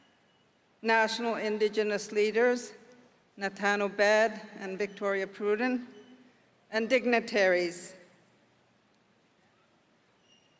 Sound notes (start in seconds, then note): none